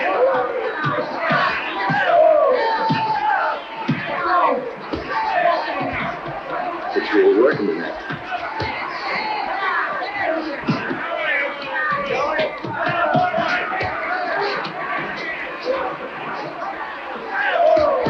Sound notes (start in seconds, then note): 8.9 crowd cheering